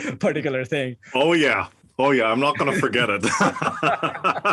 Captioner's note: laugh